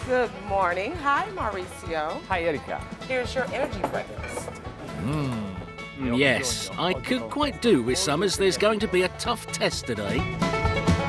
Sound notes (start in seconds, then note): 4.7 voiceover; 10.9 upbeat bluegrass music